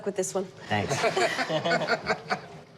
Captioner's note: laughter